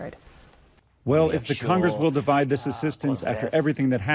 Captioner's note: through translator